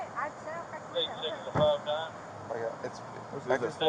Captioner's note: radio chatter